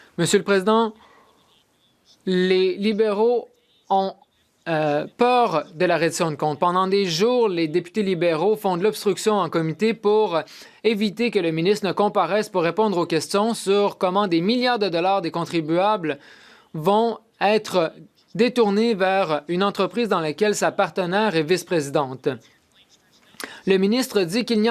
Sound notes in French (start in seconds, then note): 0.8 voix de l'interprète